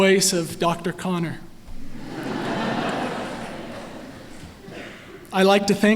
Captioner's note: laughter